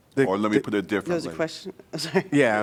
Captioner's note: laughter